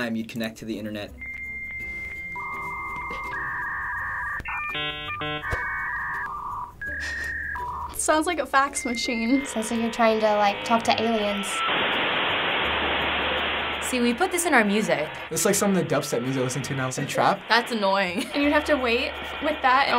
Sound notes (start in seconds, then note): 1.3 high pitched beeping noises; 11.6 static